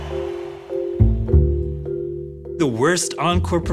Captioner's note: applause